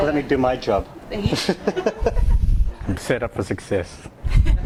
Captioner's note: laughs